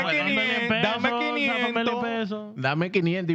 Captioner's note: laughing; speaking In Foreign Language